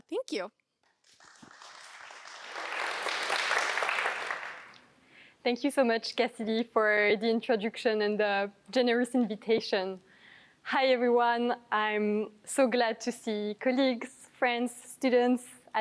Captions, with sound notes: Thank you. [APPLAUSE] Thank you so much, Cassidy, for the introduction and the generous invitation. Hi, everyone. I'm so glad to see colleagues, friends, students,